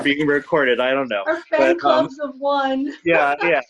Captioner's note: laughs